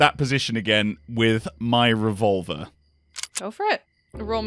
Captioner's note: revolver cocks